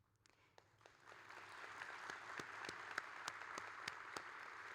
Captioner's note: audience applauding